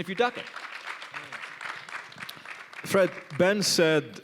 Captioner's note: applause